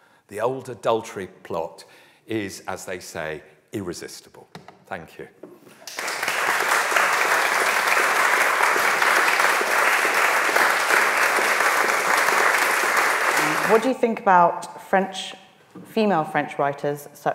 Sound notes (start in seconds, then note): 5.8 audience applauding